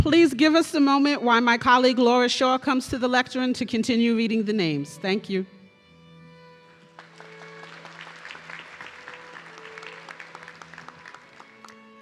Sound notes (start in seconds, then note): 6.7 audience clapping